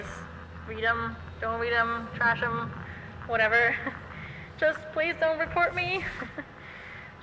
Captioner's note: nervous chuckle